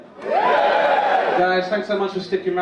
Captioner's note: audience cheer